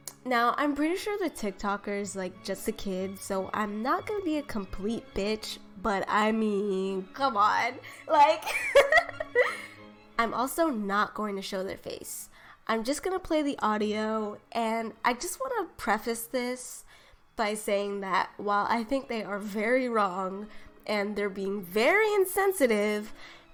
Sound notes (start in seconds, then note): 8.4 laughter